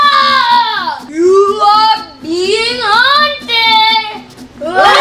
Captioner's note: ghostly yelling